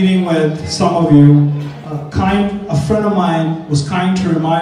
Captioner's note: none